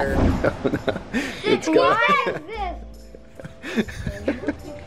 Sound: laughing

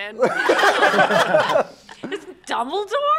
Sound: laughing

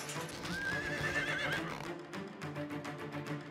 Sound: horse neighs

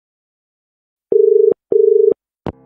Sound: dial tone

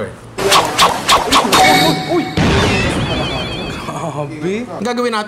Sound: sound effects

